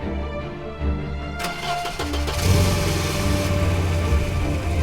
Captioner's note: engine cranking